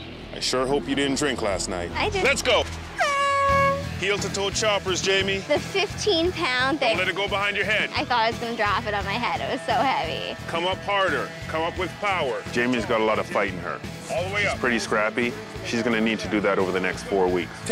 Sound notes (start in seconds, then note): 3.0 air horn blasts